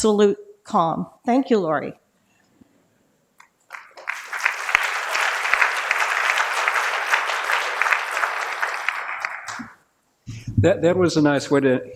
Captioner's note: applause